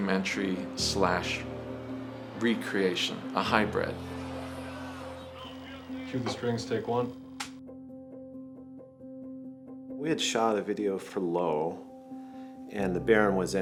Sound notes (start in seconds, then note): 7.4 slate snaps